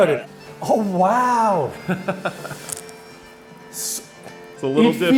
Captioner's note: laughs